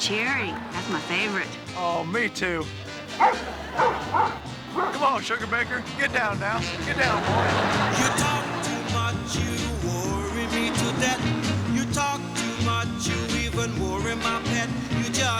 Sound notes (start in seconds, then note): 3.0 barking; 7.6 audience laughing